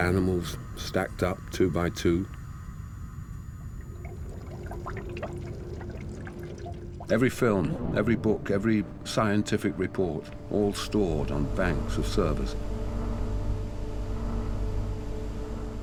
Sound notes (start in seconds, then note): 3.8 liquid bubbling; 12.7 electronic humming